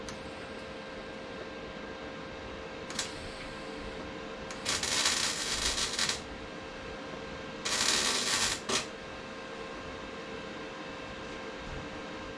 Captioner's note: welding noises